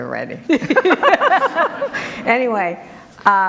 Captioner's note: group laughter